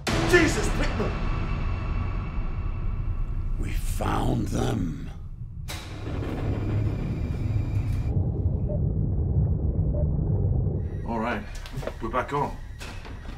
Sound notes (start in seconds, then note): 5.6 lights clicks; 8.5 console blipping; 8.5 submersible droning